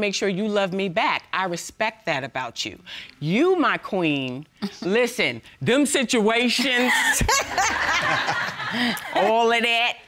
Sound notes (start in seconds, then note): 7.1 all laughing